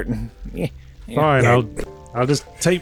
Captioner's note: moped walking noises